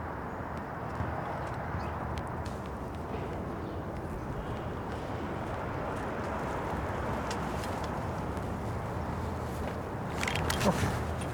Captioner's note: cars pass in background